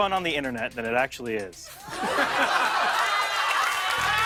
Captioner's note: laughter